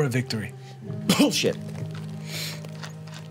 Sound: coughs

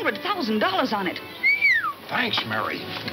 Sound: whistling

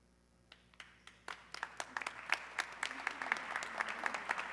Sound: audience clapping

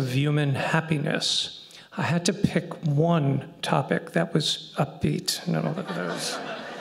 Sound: laughter

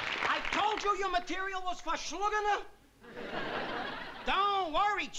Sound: yiddish

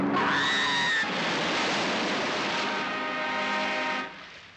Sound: women screaming

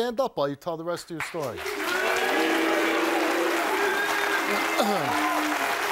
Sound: crowd applauds

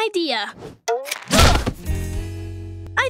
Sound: groaning

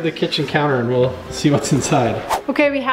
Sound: whooshing

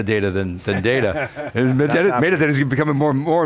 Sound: laughs

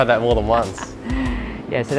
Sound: laughs

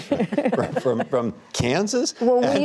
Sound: laughter

